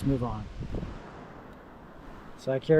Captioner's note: air whooshing